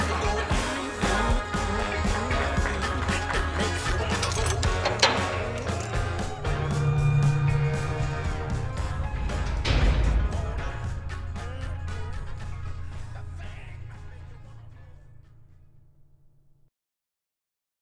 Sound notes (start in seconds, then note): 4.2 metal doors clang; 5.8 dark brooding music; 10.3 metal doors clang